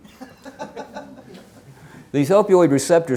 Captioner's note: woman laughing